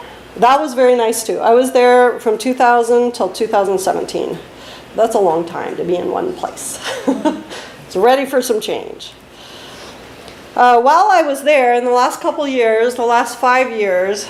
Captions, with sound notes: That was very nice too. I was there from 2000 until 2017. That's a long time to be in one place. [laughs] I was ready for some change. While I was there, in the last couple years, the last 5 years,